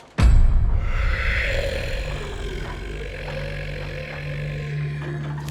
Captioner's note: dramatic music; monster grumbling